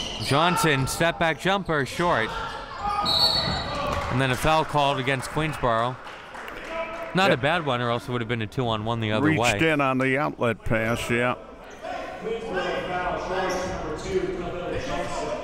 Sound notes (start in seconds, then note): 3.0 whistle blows